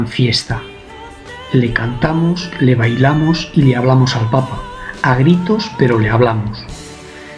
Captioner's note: yelling, but we talk to him